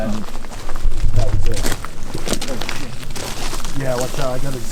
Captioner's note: footsteps pattering